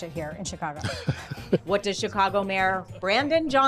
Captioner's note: Brandon laughs